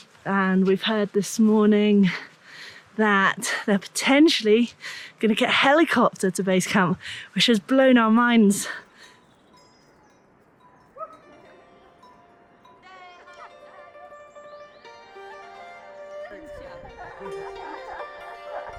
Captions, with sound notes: And we've heard this morning that they're potentially gonna get a helicopter to base camp, which has blown our minds. (bells ringing) (indistinct conversation) (relaxed music)